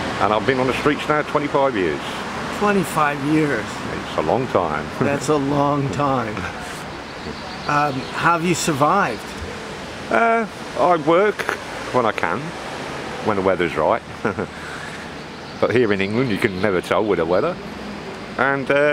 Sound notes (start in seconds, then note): 13.9 laughs